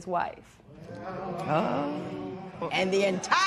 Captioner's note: spectators murmur